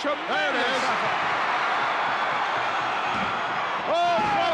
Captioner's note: crowd cheering